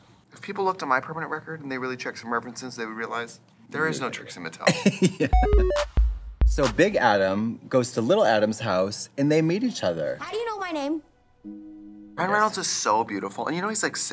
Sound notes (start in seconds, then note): 4.6 Katya laughs; 5.3 retro video game sound effects